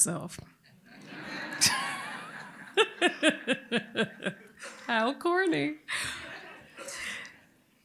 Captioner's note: laughter